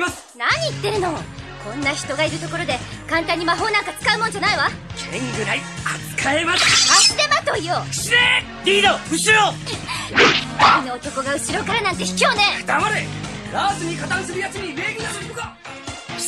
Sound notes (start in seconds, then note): 6.6 SFX: unsheathes sword; 10.1 SFX: dodging sounds